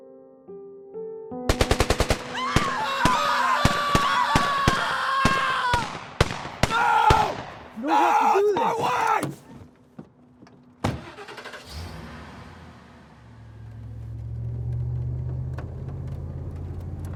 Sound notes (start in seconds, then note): 1.9 gunfire echoing; 2.3 people screaming; 10.9 car engine starting